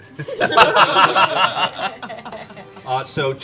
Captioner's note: laughter